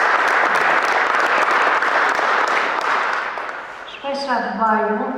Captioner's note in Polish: Aplauz